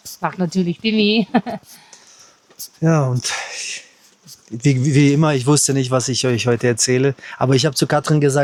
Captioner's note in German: gelächter